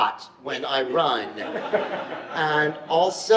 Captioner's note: audience laughs